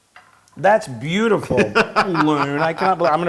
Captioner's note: laugh